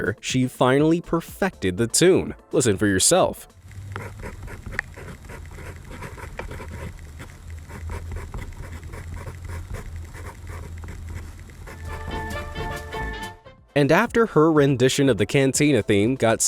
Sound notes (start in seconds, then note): 3.8 pencil scratching